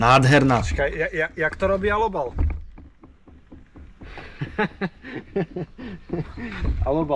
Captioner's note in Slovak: smiech